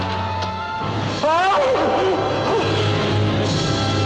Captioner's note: screams